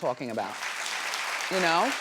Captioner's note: audience clapping